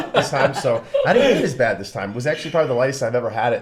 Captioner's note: laughs